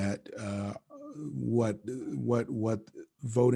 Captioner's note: stutters